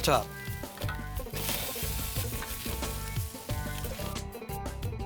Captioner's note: naans sizzle